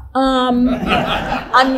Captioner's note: audience laughing loudly